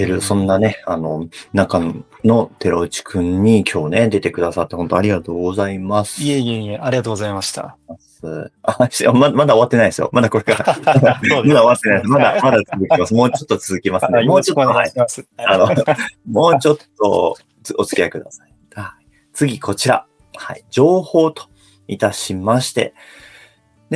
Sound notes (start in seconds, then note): 10.4 laughs; 15.6 laughs